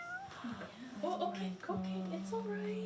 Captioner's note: overlapping chattering